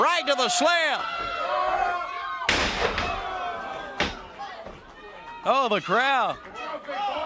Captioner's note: crowd chatter